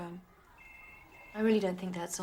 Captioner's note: phone ringing